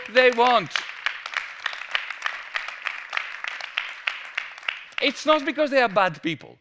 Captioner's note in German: Applaus